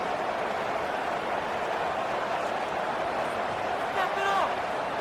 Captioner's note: crowd Noises